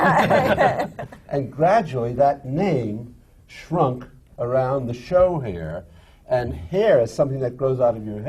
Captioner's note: laughter